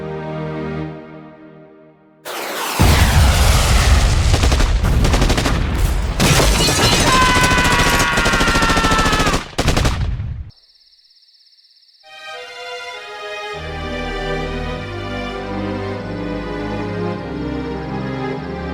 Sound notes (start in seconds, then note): 2.2 war movie sounds; 12.2 orchestral music